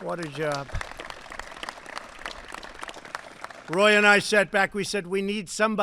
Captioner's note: applause